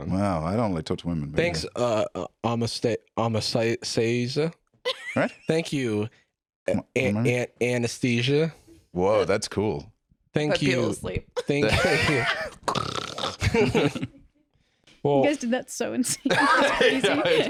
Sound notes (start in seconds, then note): 4.8 laughs; 12.6 both fake-snoring; 13.4 both chuckle